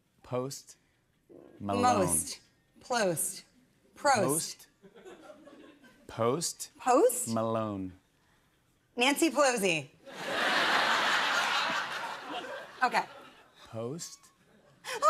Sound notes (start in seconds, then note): 10.1 laughter